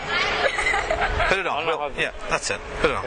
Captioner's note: laughing